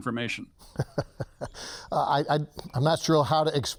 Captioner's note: laughs